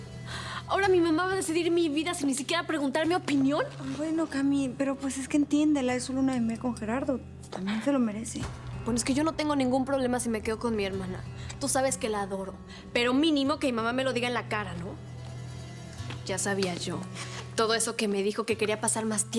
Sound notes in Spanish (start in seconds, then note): none